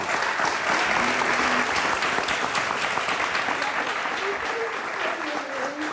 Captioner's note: audience applauding